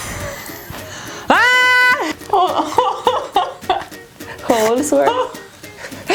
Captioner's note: screams